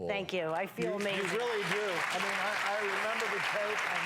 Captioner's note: audience applauds